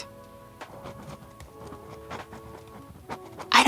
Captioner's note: writing sounds